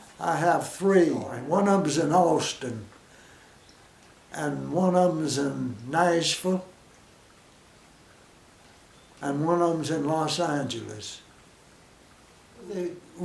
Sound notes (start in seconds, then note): 7.2 silence